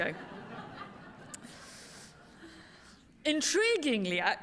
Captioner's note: laughter